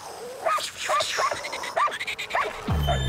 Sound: making flying noises; barking

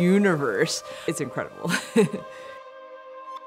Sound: chuckles; gentle bright music

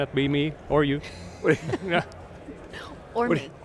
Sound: laughing

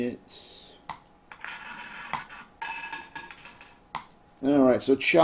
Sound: ball rolling

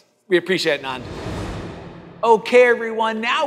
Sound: air swooshing

